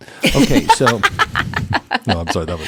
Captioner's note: laugh